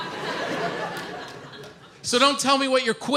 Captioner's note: audience laughs